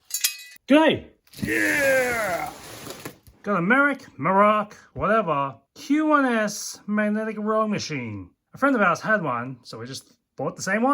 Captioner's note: struggle